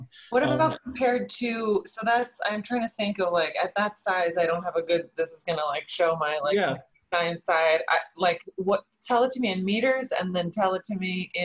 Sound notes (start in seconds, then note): 7.4 voice muffled